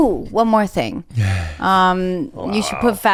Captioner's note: chuckles